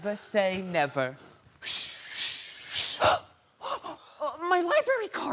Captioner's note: swooshing